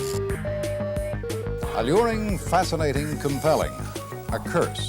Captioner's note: digital tones and beeps